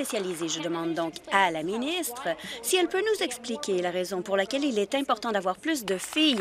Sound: applause

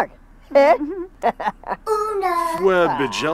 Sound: laughes

